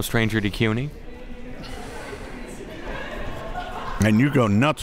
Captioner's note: crowd murmuring